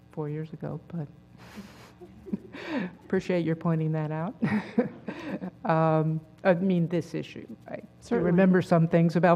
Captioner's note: laugh